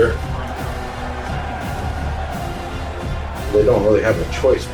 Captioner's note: crowd Noises